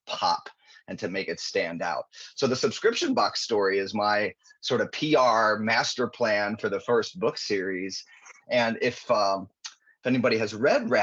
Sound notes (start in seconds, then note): none